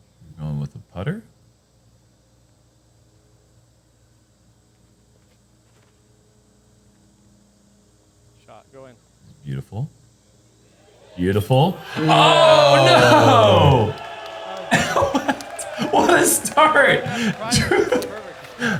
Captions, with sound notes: -Going with the putter. -Shot going. -It's beautiful. Beautiful. [cheering] -Oh, no. [chuckles] What? What a start, Drew.